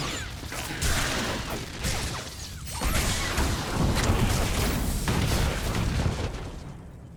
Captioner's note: gunshot